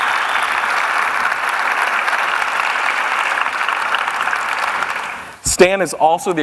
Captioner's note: applause